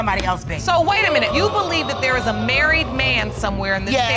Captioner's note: audience exclaiming